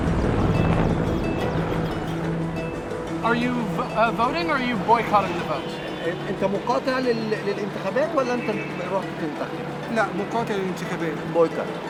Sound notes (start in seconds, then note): 5.0 speaking Arabic